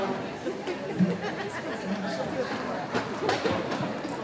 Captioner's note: people chatting